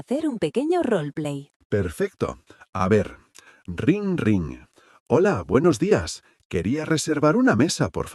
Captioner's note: in a receptionist's voice